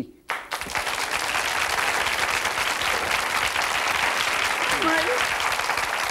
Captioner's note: audience clapping